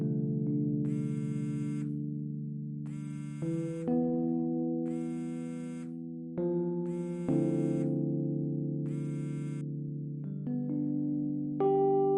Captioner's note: phone ringing